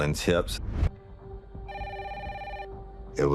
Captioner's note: phone rings